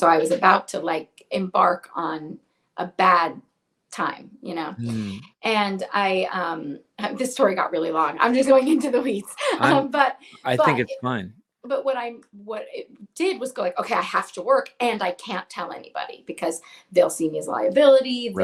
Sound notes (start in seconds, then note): 9.2 laughs